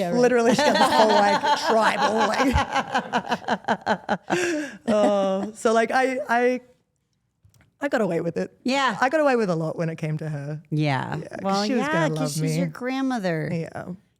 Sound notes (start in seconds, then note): 2.7 Stephanie laughing